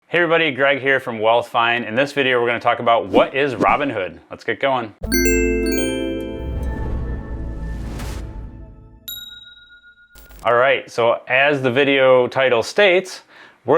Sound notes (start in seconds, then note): 5.0 gentle music; 9.0 bell dings